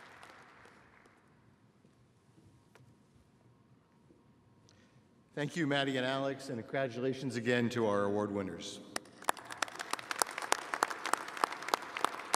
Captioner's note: applause